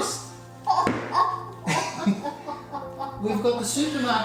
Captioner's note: everybody laughing